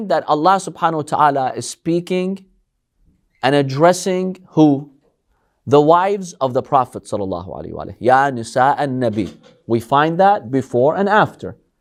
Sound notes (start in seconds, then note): 8.0 Arabic